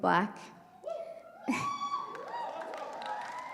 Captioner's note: cheers